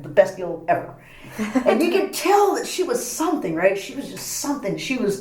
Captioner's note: laughs